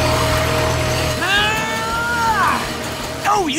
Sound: grunting

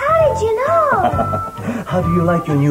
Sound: laughs Creepily

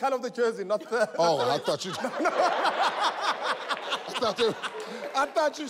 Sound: laughs loudly

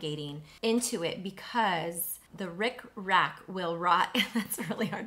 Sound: chuckles

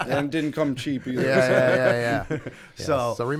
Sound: laughter

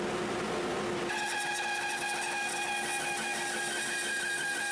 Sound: saw buzzing

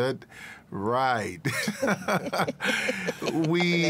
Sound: laughter

